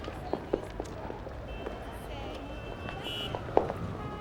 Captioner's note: horns honking